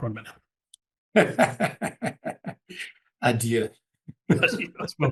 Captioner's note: laugh